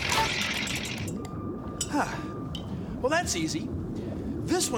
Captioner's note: sighs